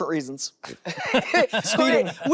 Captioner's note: laughter